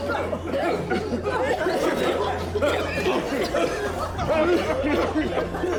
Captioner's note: patients continue coughing